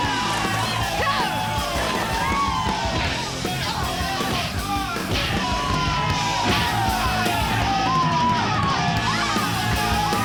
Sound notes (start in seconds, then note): 4.6 kicks thudding; 4.6 people cheer